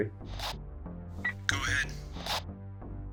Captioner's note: radio static buzzes; radio beeps